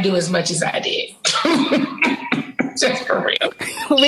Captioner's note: Nene laughing